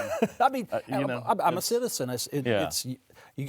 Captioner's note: laughs